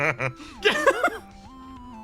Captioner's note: laugh